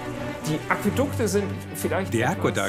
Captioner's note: speaks in foreign language